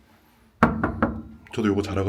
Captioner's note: knock, knock, knock